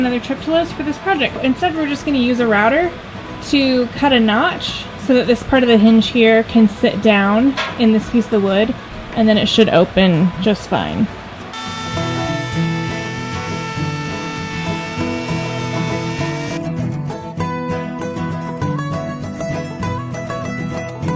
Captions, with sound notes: another trip to Lowe's for this project. Instead we're just gonna use a router to cut a notch so that this part of the hinge here can sit down in this piece of the wood. And then it should open just fine. (saw buzzing) (charming music)